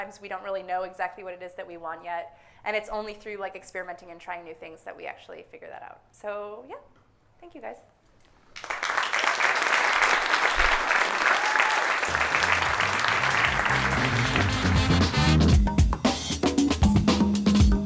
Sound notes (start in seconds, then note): 8.5 audience applauding; 14.3 funky soul